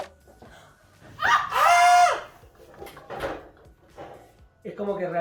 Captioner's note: laughs